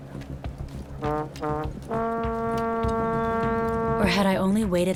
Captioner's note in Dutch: geboren blaring